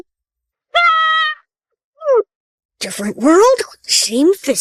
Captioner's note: screams